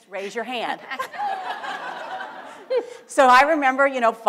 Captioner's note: audience laughter